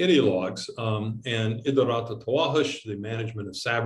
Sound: speaks in foreign language

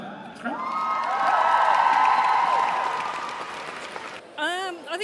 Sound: cheering

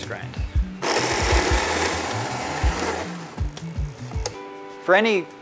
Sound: coffee grinder whirs

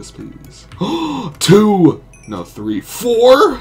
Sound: gasp

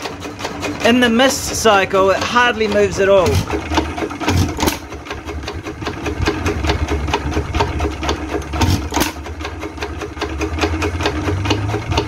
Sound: exhaust valve wiggle

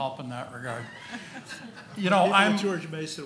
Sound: laughing

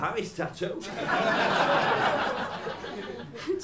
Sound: laughter

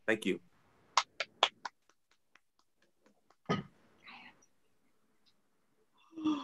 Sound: applause

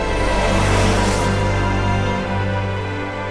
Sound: truck whooshes

